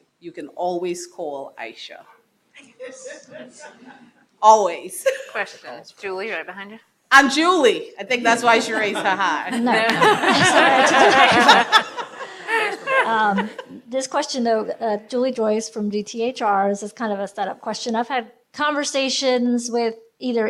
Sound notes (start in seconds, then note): 9.8 attendees laughing